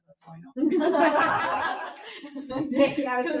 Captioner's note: people laugh